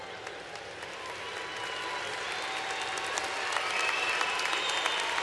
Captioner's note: applause